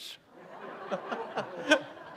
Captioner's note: laughter